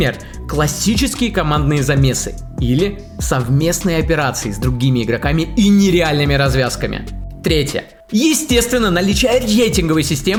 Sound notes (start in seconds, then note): none